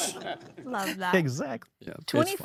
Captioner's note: all laugh